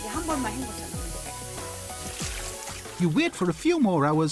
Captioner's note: speaking Korean